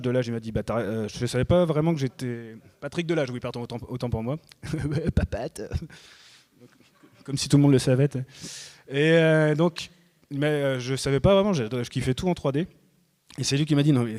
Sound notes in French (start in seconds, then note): 4.6 rires